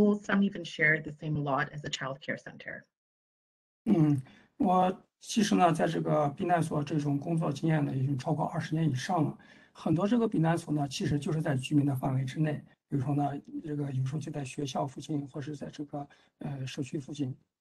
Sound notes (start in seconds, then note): 7.1 speaks in Mandarin